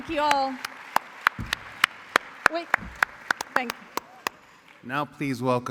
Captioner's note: applause